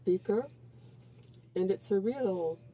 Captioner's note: speaking French